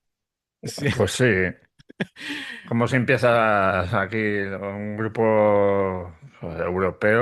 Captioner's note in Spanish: risas